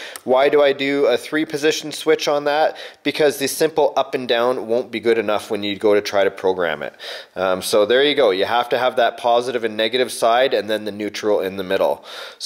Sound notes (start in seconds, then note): none